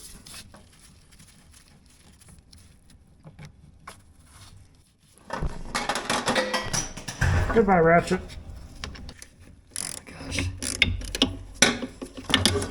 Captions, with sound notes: (parts clanking) Goodbye, ratchet. Oh my gosh.